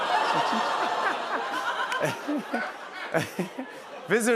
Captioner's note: laughter